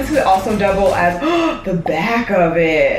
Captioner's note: gasps